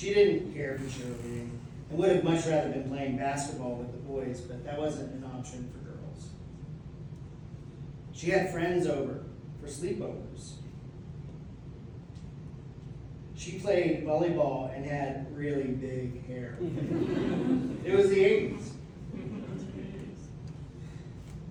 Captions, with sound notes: She didn't care for cheerleading and would have much rather been playing basketball with the boys but that wasn't an option for girls. She had friends over for sleepovers. She played volleyball and had really big hair. [laughter] It was the 80's! [laughter]